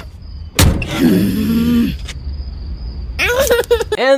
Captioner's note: Nicole And Richard growling; Anais laughs